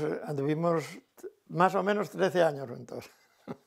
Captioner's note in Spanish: ríe